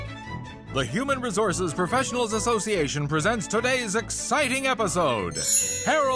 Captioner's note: upbeat music; chimes